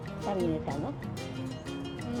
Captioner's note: speaks Spanish